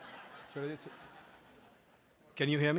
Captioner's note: laughter